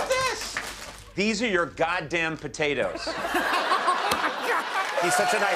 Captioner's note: laughter